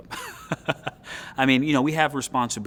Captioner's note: laughs